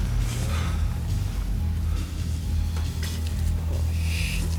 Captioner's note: John breathing heavily